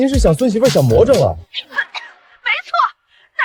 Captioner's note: cough, cough, cough